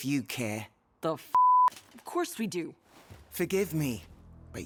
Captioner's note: beep